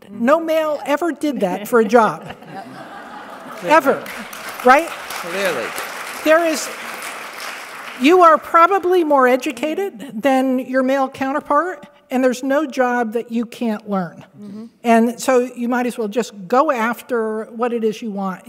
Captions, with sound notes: No male ever did that for a job. Ever. [APPLAUSE] You are probably more educated than your male counterpart and there's no job that you can't learn and so you might as well just go after what it is you want.